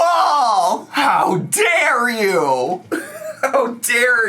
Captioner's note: laughs